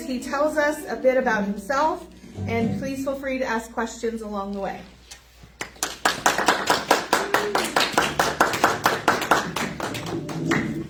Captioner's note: clapping